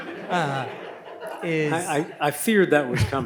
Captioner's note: audience laughs